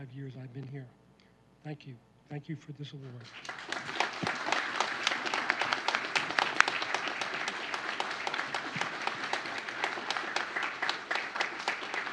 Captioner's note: applause